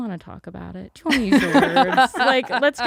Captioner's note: laughs